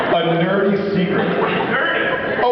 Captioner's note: laughs